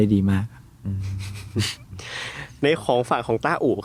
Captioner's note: chuckle